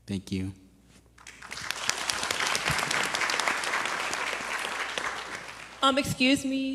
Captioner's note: audience applauds